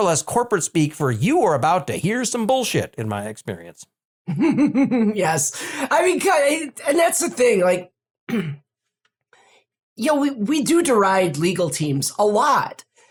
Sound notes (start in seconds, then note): 5.3 laugh; 8.3 clear throat